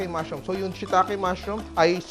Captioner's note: sizzle